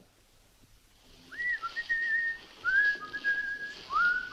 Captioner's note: continues whistling